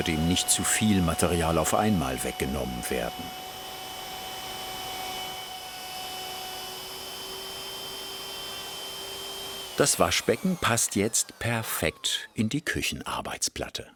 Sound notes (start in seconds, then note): 3.8 machine whirring